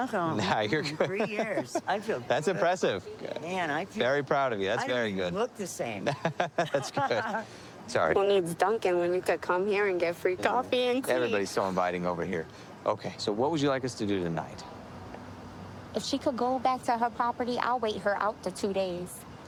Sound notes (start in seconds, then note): 6.0 laughing